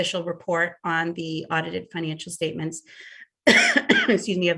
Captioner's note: coughs